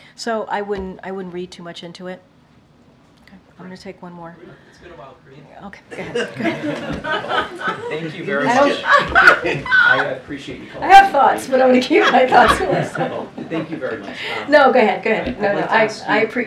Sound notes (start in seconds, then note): 5.9 laughter; 11.8 laughter